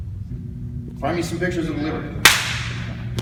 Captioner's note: clap